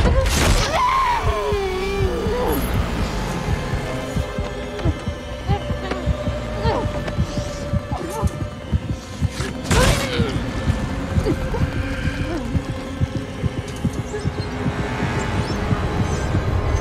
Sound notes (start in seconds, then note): 0.5 muffled screaming; 1.7 heartbeat thumping; 4.6 Mindy grunting, groaning